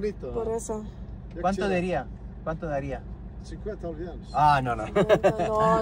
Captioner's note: in Spanish